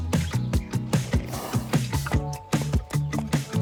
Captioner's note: upbeat music; horse snorts